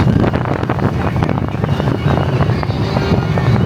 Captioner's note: wind blowing